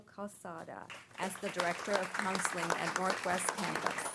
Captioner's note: applause